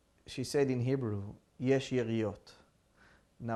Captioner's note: hebrew